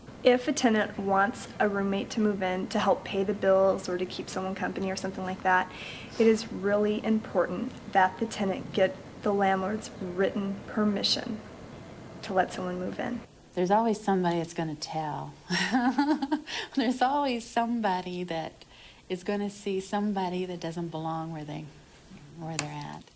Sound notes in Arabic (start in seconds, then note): 15.6 يضحك